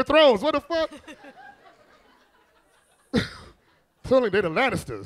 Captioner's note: audience laughs